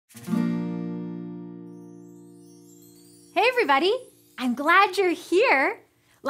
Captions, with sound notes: (guitar strums) (chimes) - Hey everybody, I'm glad you're here.